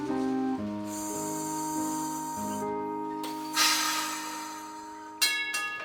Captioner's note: gentle music; trolley hisses